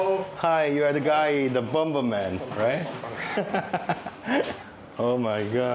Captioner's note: laughter